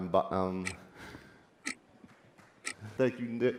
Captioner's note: clocks still ticking